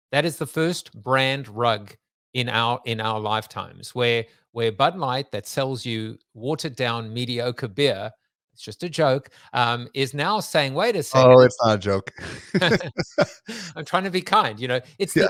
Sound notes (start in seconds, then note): 12.1 both chuckle